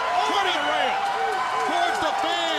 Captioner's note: crowd cheering